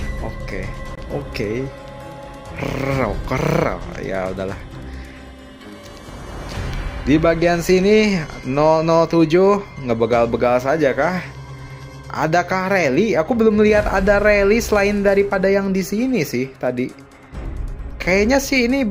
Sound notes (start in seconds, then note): 2.4 groan; 2.5 grunting